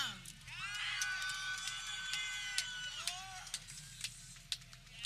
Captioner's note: people cheering